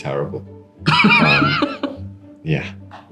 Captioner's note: Sam laughs